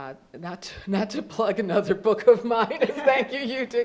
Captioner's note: laughs